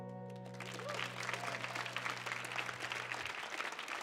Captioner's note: audience applauds